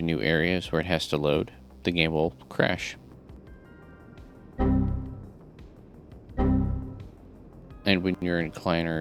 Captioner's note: Windows XP - error noise